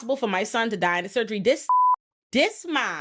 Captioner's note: beep